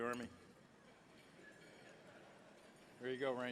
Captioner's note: laughter